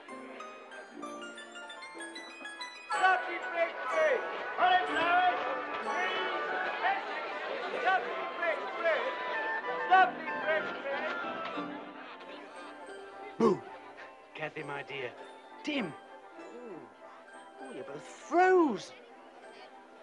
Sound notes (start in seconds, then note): 3.0 merchant shouting and crowd murmuring